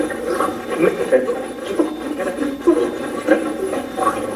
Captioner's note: Steve's Box chatters